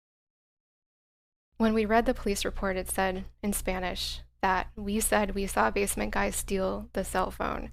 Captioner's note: in Spanish